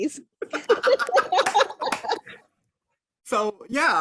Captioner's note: laughing